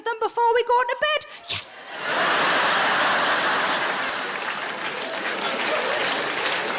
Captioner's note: audience laughs and claps